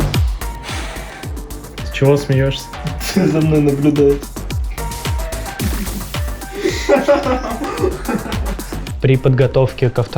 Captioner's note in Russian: смеется; смеются все вместе